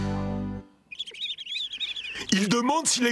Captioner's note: chirping